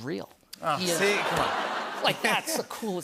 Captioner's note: laughter